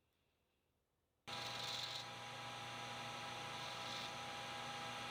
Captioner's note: machine whirring